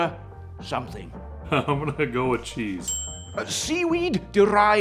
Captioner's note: chuckles